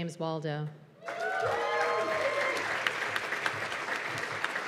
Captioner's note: cheers and applause